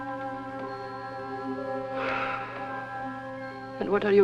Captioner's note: sighs